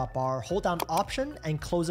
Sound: button clicks

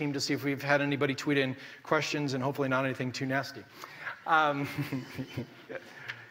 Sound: laughs

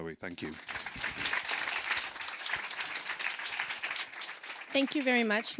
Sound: audience applauding

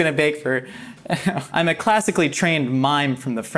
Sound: laughs

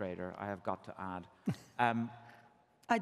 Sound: chuckles

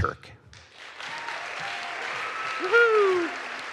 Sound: audience applauds

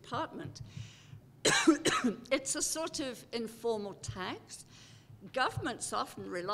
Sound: cough

